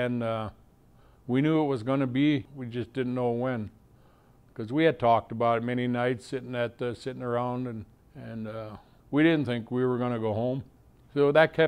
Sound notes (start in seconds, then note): none